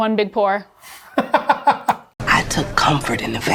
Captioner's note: laughs